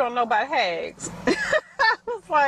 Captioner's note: laughing